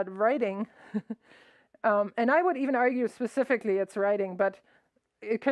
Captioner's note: laughs